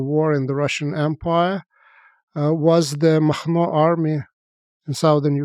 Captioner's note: speaks foreign language